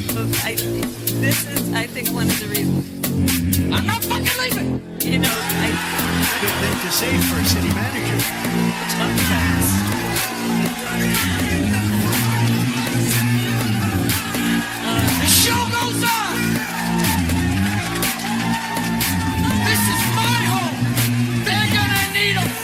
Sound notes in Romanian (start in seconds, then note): 8.6 Aplauze; 16.2 Aplauze